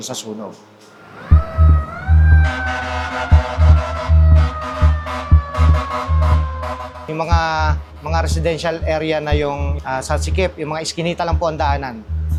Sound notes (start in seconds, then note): 0.9 fire truck siren